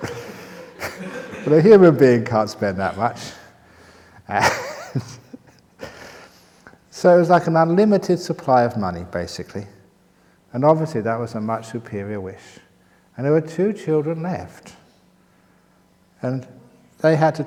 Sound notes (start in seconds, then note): 0.0 laughter; 4.0 chuckles